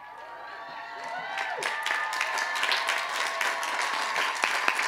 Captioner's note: cheers and applause